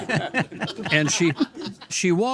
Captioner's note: all laugh